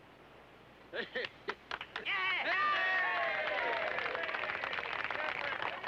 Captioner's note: crowd clapping and cheering